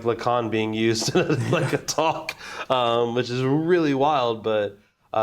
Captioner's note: laughing